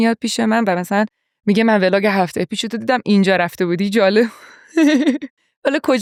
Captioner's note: laughs